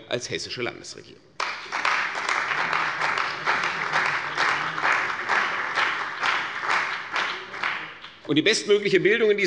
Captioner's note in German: Beifall bei der CDU und dem BÜNDNIS 90/DIE GRÜNEN